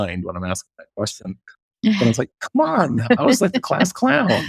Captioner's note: laughs